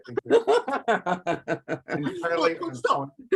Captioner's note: laughs